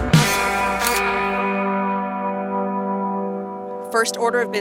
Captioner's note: camera shuttering